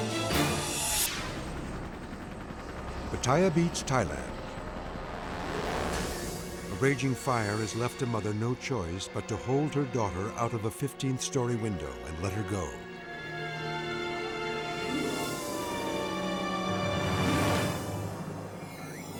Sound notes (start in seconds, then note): 0.1 logo swooshing; 5.2 dramatic music; 13.4 sirens screaming; 16.0 dramatic music